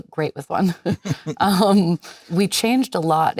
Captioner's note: Leonardo and Jennifer laughing